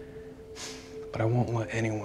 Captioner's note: sighs